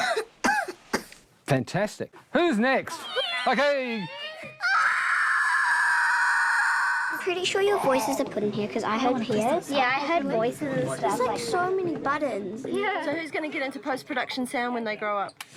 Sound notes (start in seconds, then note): 0.0 coughs; 4.0 shrieking